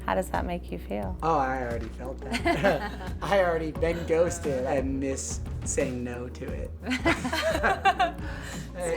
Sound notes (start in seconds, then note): 2.4 laughs; 6.9 all laugh